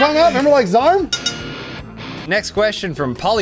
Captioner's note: bell dings